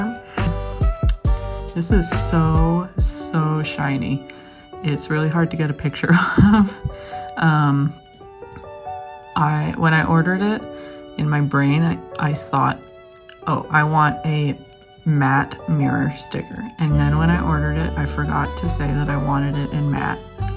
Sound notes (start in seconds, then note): 6.2 laughs